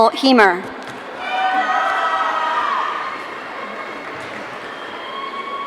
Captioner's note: audience cheering